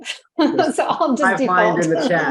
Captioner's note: laughs